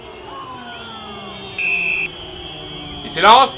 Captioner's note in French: coup de sifflet de l'arbitre